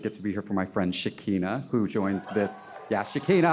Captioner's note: audience cheering